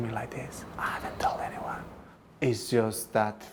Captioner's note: whispering